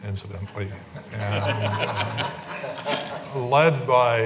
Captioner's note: laughing